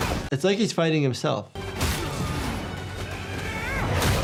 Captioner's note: grunting